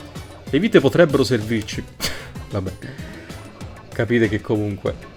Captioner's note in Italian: risatina